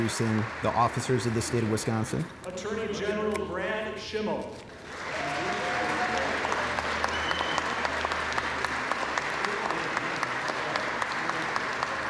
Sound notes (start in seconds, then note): 4.8 applause